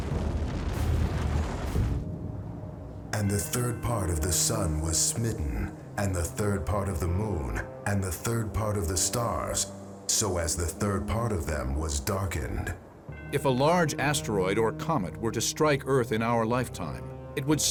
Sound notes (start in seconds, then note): 0.0 explosions